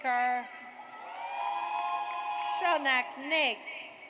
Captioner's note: audience cheers